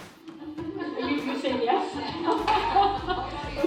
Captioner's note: laughter